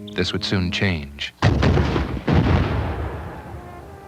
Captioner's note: cannons firing